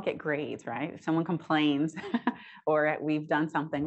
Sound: chuckles

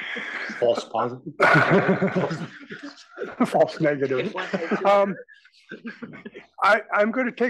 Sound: laugh

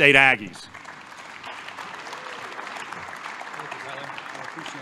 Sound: applause

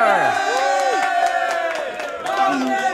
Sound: everyone cheering

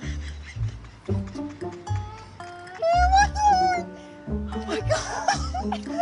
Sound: hysterical laughing

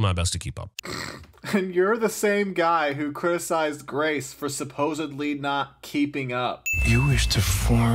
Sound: snickers

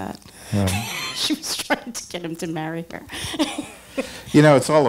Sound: laughing

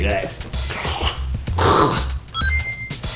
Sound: choking; forced exhale

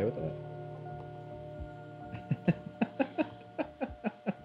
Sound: laughing

